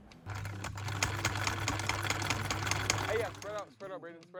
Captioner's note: sewing machine hums